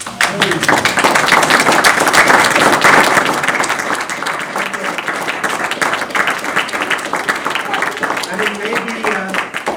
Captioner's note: applause